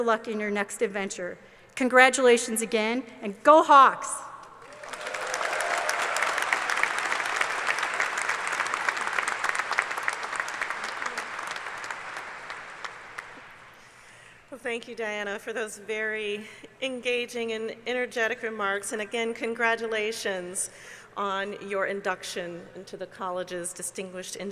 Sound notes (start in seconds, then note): 10.8 cheers and applause